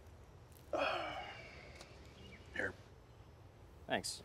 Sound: sighs

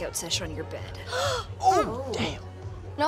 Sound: Devi gasps

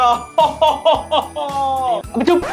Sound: Santa laughing

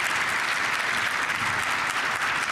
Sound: applause

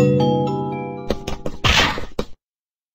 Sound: footstep sounds

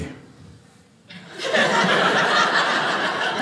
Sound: audience laughing

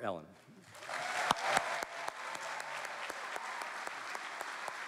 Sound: cheering

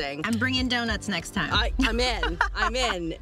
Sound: laughs

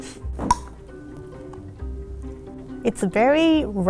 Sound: safety seal popping

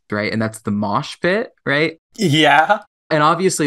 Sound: laughing

